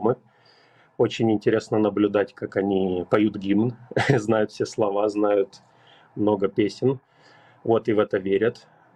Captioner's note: Russian